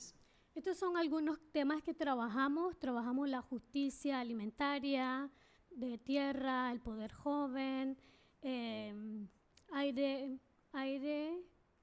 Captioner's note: speaking spanish